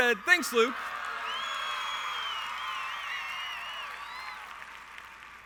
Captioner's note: the audience cheers